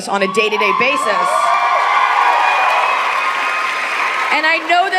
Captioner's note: audience cheering